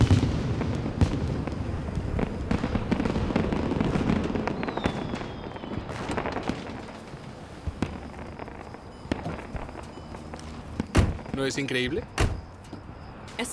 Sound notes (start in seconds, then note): 3.8 fireworks popping